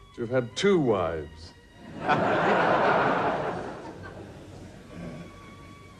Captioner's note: audience laughs